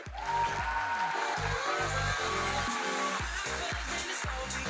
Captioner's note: audience cheering